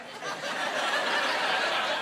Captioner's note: laughing